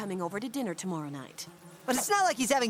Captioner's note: flies buzzing